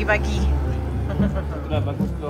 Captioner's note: laugh